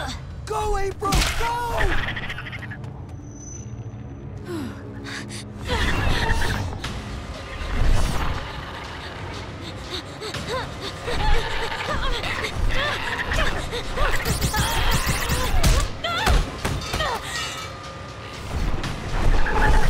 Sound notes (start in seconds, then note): 9.0 panting; 13.7 grunting, shooting; 15.8 grunting, thudding